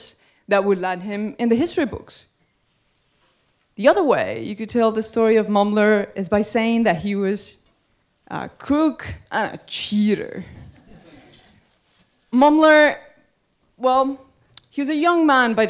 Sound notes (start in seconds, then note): 10.6 audience laughing